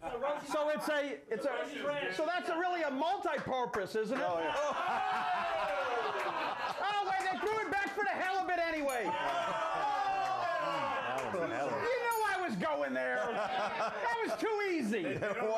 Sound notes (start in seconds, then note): 4.4 audience jeers; 9.0 bell Rings; 9.8 audience jeers